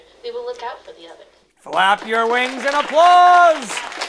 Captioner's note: cue applause